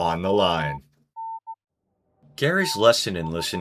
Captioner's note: morse code spelling "listening on the line"